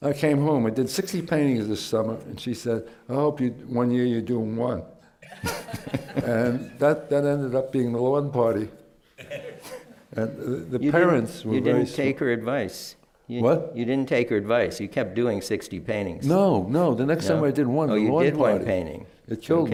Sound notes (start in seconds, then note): 5.2 laughter